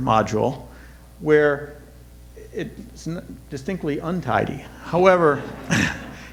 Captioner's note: audience laughter